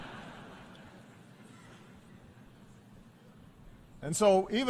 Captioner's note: laughter